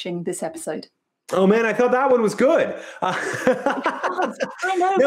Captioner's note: laughs